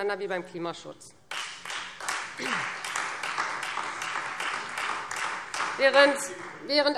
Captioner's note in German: Beifall